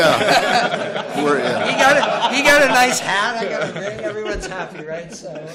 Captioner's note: laughter